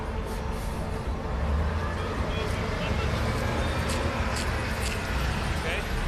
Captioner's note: none